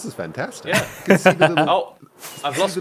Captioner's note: laughs